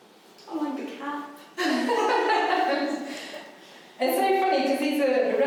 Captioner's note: both laughing